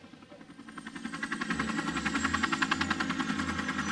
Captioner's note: helicopter whirring